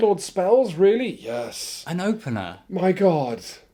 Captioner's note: breathy